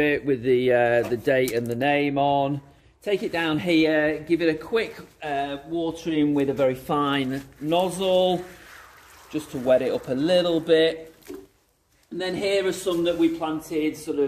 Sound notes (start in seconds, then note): 2.3 label clicks; 7.9 water showering